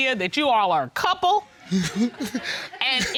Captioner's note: audience laughs